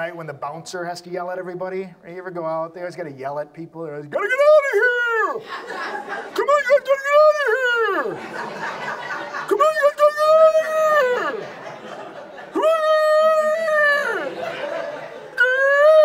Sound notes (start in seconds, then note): 6.3 audience laughs; 6.9 yells incoherently; 10.0 audience laughs; 10.1 yells incoherently